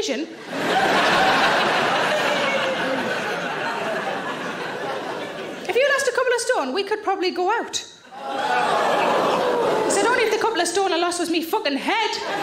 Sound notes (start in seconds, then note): 0.4 audience laughing; 8.1 audience exclaims